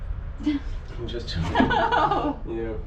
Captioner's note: laughter